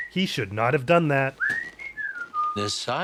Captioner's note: more whistling